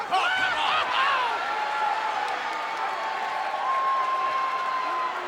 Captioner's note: crowd cheering